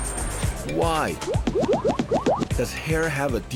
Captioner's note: bubbly popping